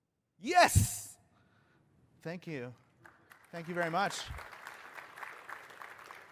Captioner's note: applause